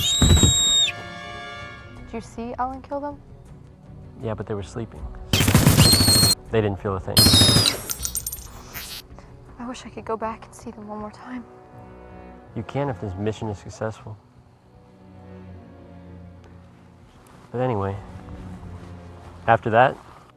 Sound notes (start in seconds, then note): 0.0 thumping sound; 5.3 gunshots